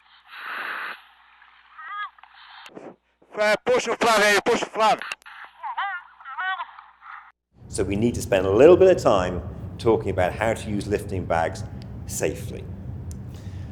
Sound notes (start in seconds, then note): 0.0 radio fizzles; 3.5 man shouts in foreign language; 5.3 radio fizzles; 7.6 breeze blowing softly; 13.2 inhales audibly